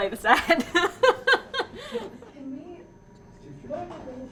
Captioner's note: laughter